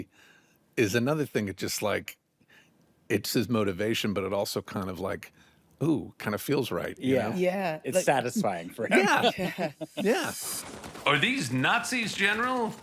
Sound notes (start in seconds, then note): 9.0 all laugh